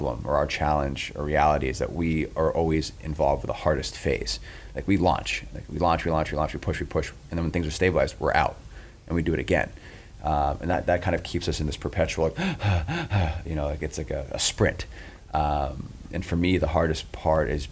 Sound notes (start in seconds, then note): 12.4 panting